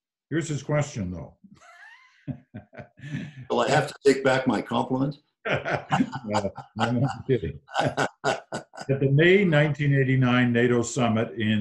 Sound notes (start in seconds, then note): 2.2 chuckles; 5.4 laughs